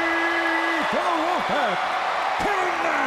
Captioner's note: crowd cheering